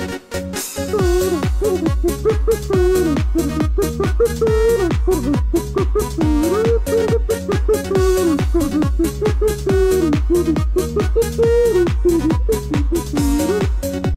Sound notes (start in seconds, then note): 0.8 Happy Kriegsman Noises